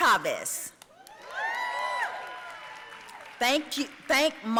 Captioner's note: audience cheering and applauding